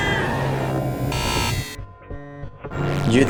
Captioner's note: ghostly woosh